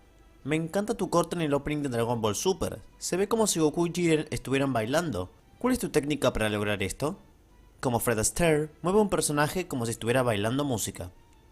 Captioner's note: reading the same thing is Spanish